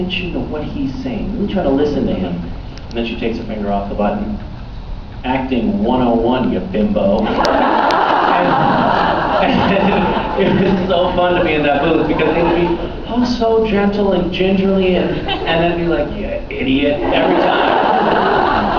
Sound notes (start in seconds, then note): 7.2 laughs; 7.2 laughing, inaudible; 10.0 laughs; 16.8 laughs